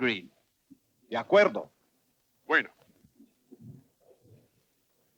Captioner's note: chatter in Spanish